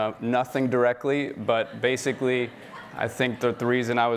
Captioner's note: audience laughing